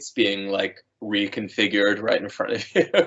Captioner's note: laughing